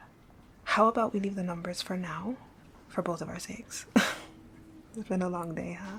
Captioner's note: laughing